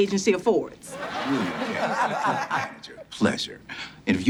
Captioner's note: audience laughs